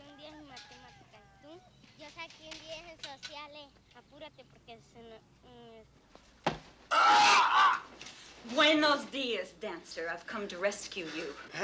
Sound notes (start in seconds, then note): 6.9 screams